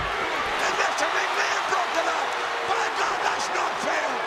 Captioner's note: presenter speaking faintly off mic